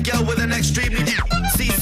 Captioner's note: clown honk